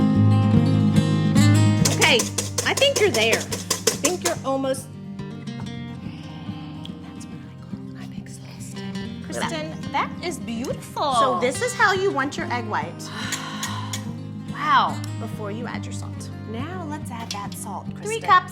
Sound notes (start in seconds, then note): 0.1 whimsical music; 7.4 whispers